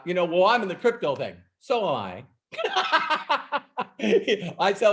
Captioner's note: laughs